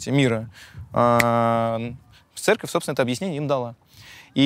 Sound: snaps fingers

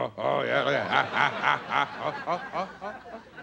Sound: playful grunting; audience laughing

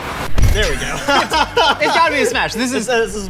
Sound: laughing

